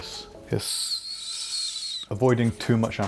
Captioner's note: hisses